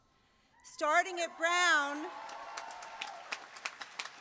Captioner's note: applause